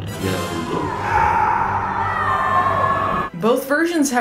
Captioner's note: Zod and the gang scream